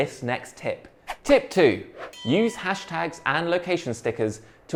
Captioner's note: bell rings